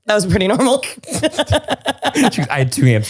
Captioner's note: both laugh